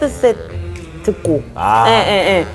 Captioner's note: burrrp